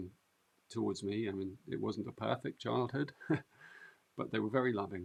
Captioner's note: chuckles